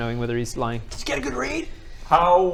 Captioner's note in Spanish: en voz baja